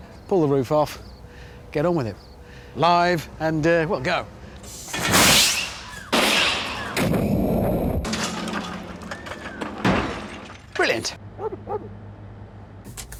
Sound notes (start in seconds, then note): 9.7 crash